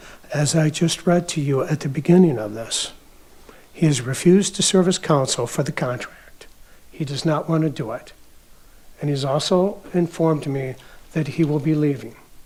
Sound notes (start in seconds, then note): none